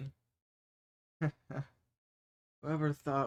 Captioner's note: dry laugh